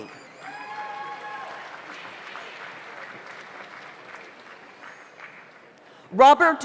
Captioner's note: audience applauds; audience cheers